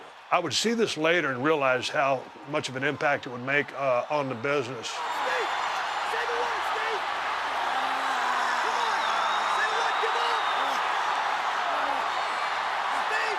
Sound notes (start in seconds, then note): 7.7 applause